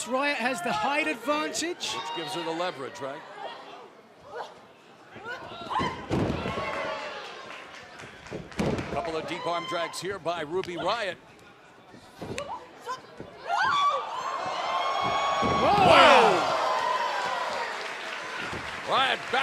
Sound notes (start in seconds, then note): 14.0 cheers and applause